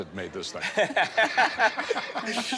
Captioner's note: laughter